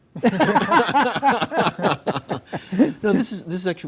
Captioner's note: laughs